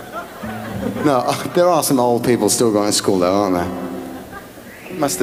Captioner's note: laughs